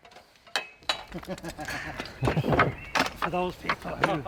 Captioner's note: laughter